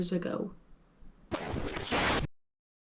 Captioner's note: radio static